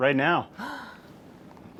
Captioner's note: gasp